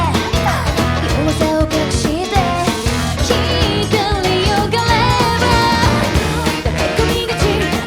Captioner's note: shhh